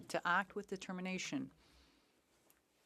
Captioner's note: speaking French